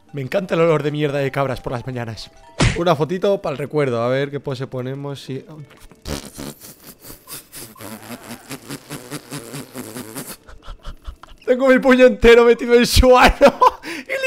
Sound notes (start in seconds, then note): 6.3 contained laughter; 13.5 laughs